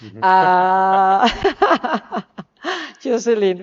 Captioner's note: laughs